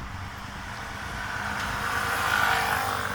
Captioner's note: in Greek